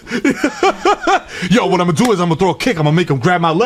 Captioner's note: laughs